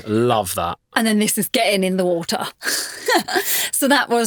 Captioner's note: laughing